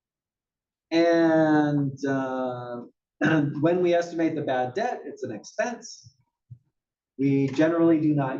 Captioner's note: cough